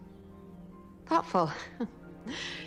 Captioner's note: chuckling